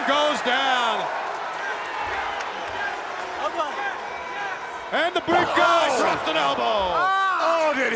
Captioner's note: applause